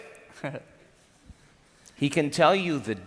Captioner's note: giggles